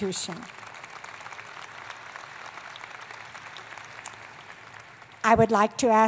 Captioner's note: applause